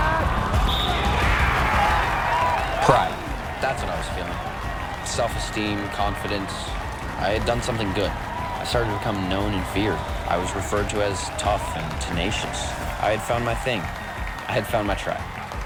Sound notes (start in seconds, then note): 0.6 whistle blows; 1.7 audience cheers and applauds